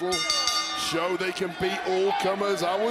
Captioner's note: bell rings